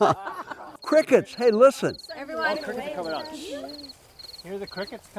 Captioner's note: laughing; crickets chirping